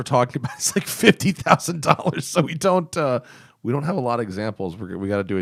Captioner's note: laughter